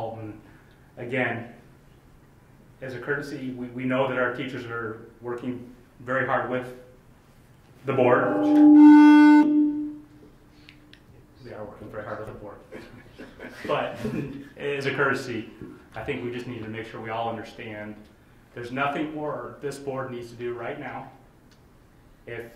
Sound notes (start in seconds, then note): 8.0 microphone buzzes; 12.7 laughing